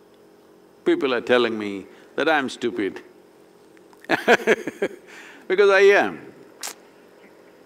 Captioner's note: laughs